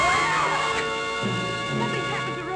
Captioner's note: screams